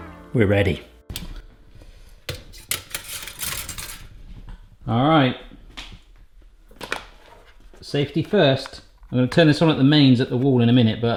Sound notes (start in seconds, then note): 2.3 metal rattling